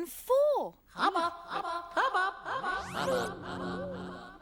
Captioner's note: echoing